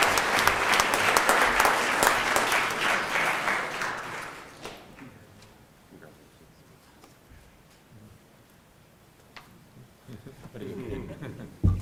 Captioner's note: applause